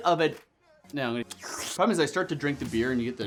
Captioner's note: slurps